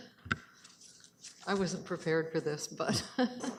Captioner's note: chuckles